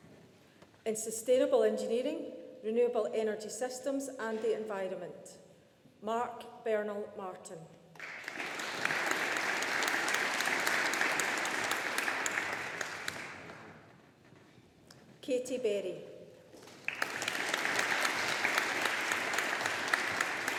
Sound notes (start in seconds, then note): 8.0 audience applauding; 16.6 audience applauding